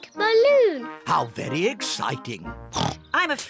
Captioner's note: oinks